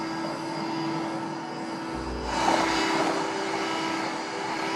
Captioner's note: vacuum cleaner hums